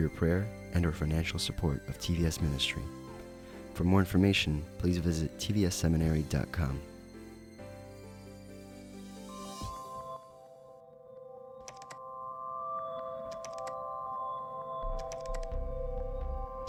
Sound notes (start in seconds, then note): 8.2 instrumental music plays; 13.2 keyboard typing sounds